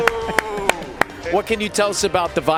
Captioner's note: clapping